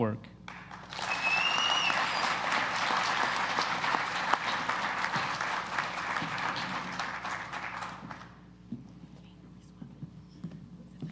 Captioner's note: applause